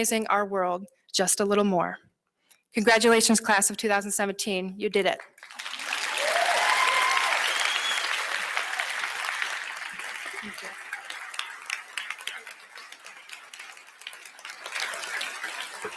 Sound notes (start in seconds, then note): 5.7 applause